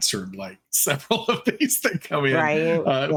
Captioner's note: laughing